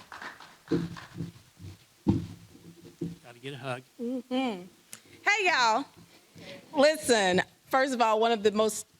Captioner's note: applause